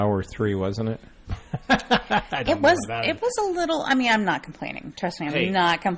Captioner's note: DJ laughs